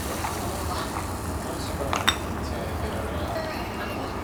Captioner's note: gulp gulp gulp